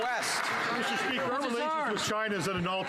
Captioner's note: some Applause